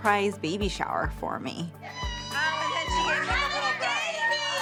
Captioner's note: screaming joyfully